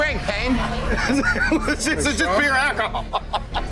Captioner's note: laughing